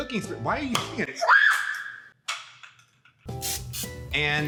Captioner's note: girl screams